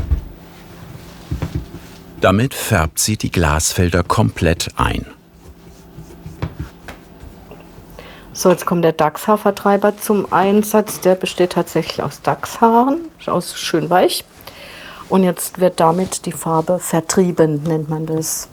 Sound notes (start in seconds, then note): none